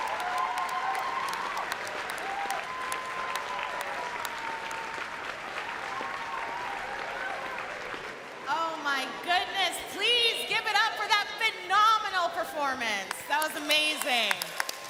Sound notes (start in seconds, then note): 0.0 cheering and Applause